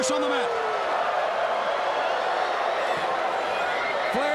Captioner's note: crowd cheering